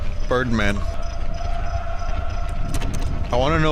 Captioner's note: distant wailing